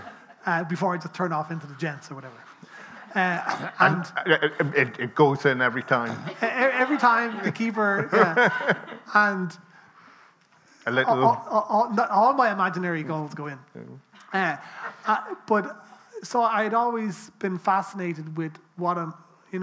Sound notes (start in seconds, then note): 0.0 people laughing; 9.6 people laughing